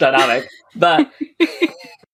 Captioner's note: laughing; laughs